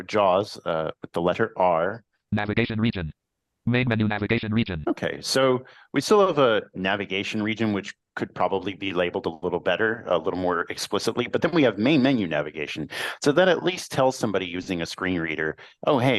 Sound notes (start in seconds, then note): 2.2 computer voice